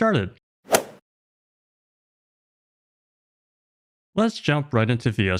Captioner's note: golf swing sound effect